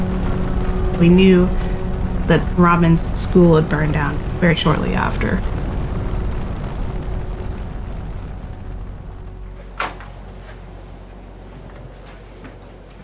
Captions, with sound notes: - We knew that Robyn's school had burned down very shortly after. [flames roaring]